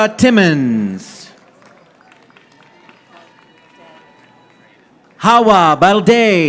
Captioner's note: audience applauding